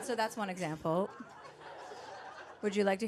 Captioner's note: audience laughing